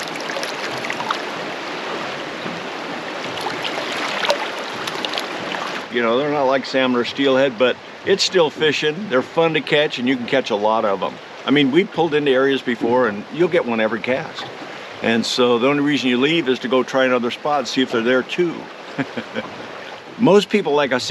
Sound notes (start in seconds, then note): 0.0 fish splashing; 5.7 water flowing; 6.7 fish splashing; 18.8 chuckling; 20.0 water flowing